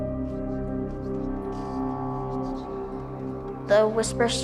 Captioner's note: voice whispering faintly